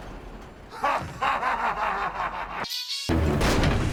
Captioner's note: laughing